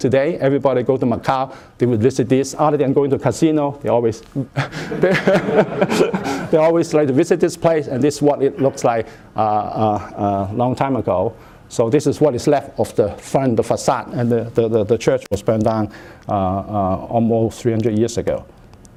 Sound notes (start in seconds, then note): 4.6 laughter